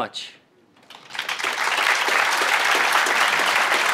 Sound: applause

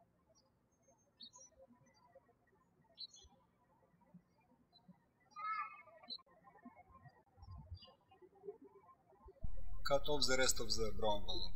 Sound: birds chirping

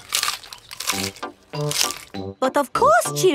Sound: munching

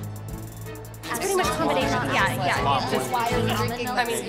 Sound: group chatters

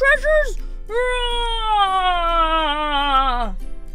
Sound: Emperor roars

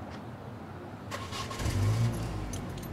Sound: engine starts

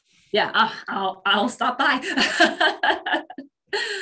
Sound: laughs

